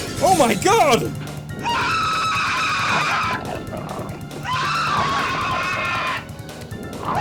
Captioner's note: scream; still screaming